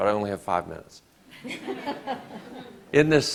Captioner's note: audience laughs